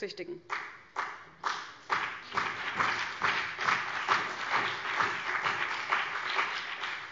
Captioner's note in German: Beifall CDU und BÜNDNIS 90/DIE GRÜNEN